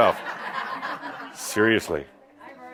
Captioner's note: some chuckles